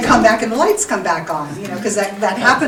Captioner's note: audience applauding